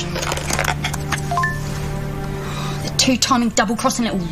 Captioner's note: Computer emite bipuri